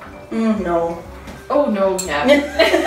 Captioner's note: laughs